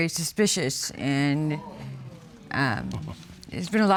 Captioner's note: audience exclaiming